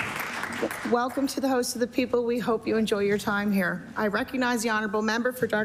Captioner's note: applause